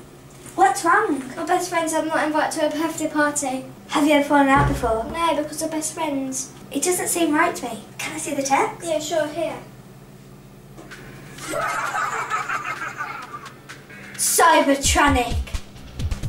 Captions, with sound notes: What's wrong? My best friend said I'm not invited to her birthday party. Have you ever fallen out before? No, because we're best friends. It doesn't seem right to me. Can I see the text? Yeah, sure. Here. (Evil Laughter) Cybertronic!